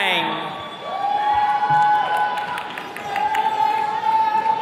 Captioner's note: attendees cheering